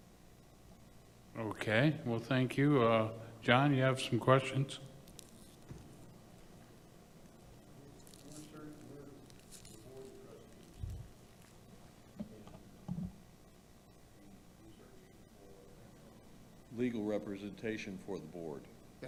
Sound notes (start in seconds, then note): 8.9 board member faintly speaking